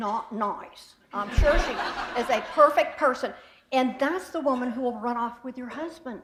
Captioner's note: laughter